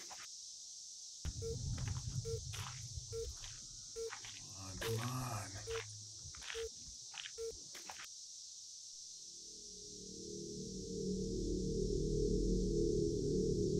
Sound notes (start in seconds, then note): 1.4 phone beeping; 10.1 ominous music